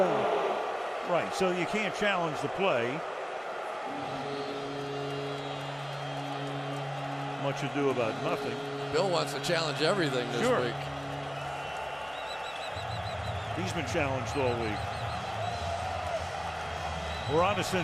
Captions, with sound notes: Third down. Right, so you can't challenge the play. [horn blowing] Much ado about nothing. Bill wants to challenge everything this week. He's been challenged the whole week.